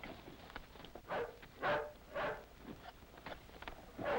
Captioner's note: dog barks